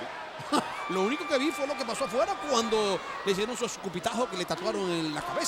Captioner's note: laugh